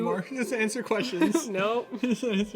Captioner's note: laughs